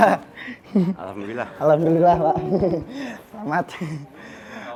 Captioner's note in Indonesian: tertawa